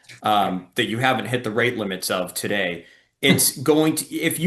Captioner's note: laughs